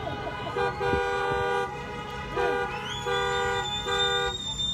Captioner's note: horns honking